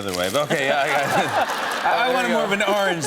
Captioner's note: laughter